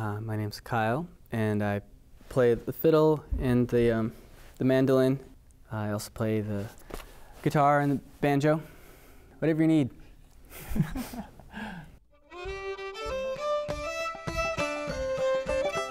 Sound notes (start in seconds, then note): 10.6 laughing